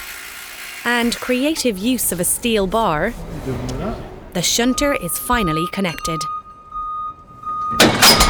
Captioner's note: clank